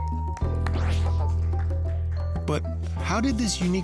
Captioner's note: clapping